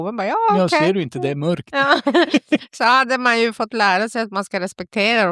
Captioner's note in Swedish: skratt